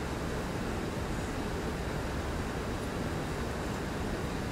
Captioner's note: none